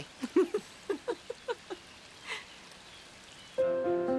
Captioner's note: laughs